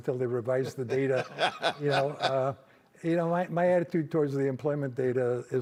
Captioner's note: laughter